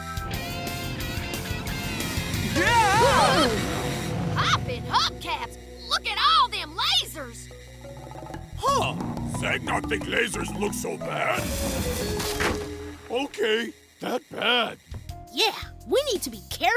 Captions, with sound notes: [screaming] Poppin' hubcaps! Look at all them lasers! Huh. Zeg not think lasers look so bad. Okay, that bad. Yeah, we need to be careful.